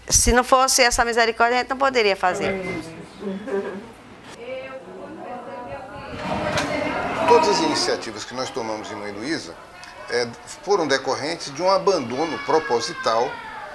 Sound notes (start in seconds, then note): 4.3 hubbub